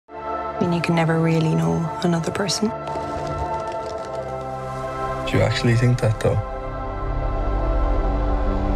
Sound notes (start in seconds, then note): 0.0 high synth music; 2.7 fluttering wings